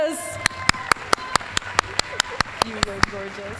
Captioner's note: applause